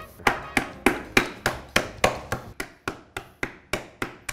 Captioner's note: wooden pin banging